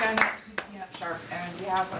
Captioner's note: applause